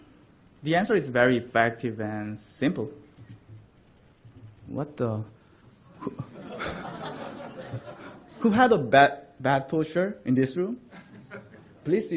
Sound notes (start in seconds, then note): 6.0 laughter